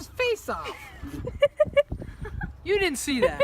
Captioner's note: giggling